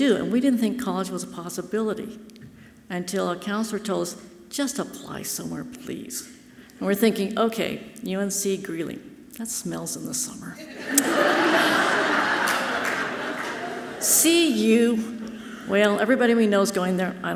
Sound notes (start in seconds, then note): 10.6 audience laughing loudly